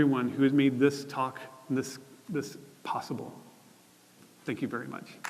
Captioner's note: applause